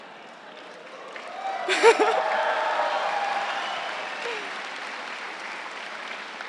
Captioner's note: crowd laughing; crowd cheering and applauding